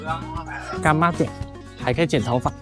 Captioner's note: Taiwanese